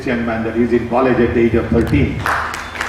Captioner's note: applause